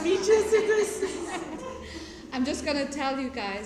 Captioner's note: laughter